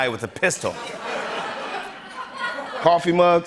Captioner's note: laughter